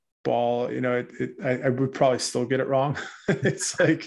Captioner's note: laughs